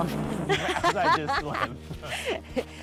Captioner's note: laughing